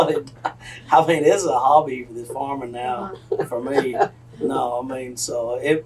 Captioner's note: laughter